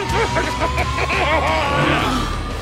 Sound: Crusher gasping

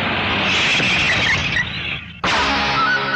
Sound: tire Screeching

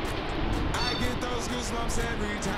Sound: beep

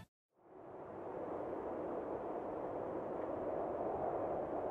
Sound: wind whistling

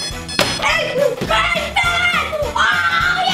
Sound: cheering

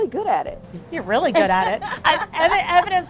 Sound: LaChanze laughs

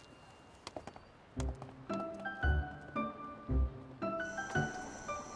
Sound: sound of Nature

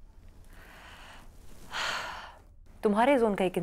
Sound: sigh

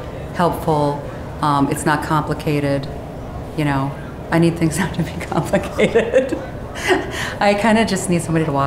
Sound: laughing

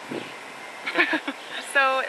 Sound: laughing

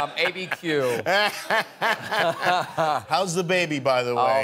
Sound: laughter

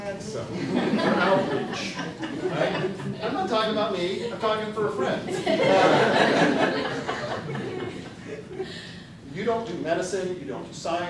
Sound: laughter

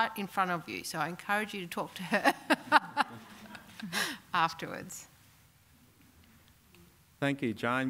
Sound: laugh

